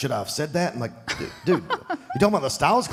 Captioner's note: Michelle laughs